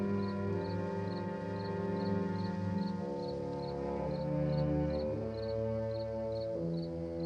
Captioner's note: none